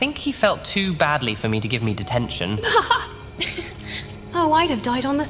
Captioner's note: she laughs